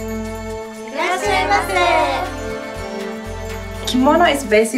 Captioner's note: women speaking in foreign language